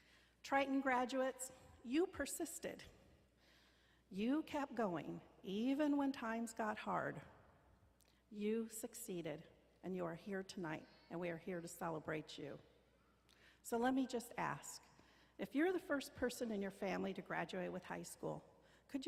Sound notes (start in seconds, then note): none